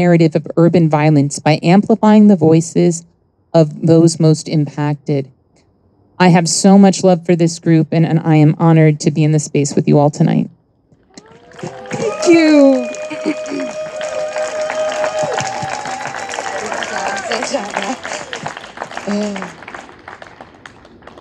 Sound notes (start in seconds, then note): 11.5 audience applauding and cheering; 13.7 clears throat; 15.2 audience applauding and cheering; 17.3 applause drowns out speech